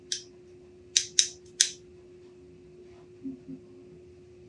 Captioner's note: lock clicking